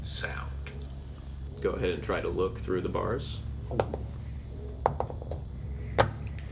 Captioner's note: dice rolls